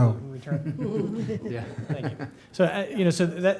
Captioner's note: chuckling